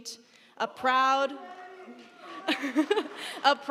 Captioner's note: laughs